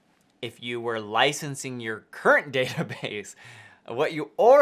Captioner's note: laughs